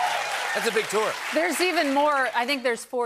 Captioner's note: cheers and applause